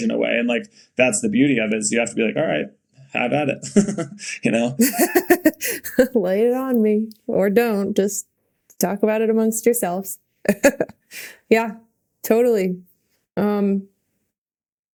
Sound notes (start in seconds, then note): 4.8 Bode laughing; 4.8 Mikaela laughing; 10.4 Mikaela laughing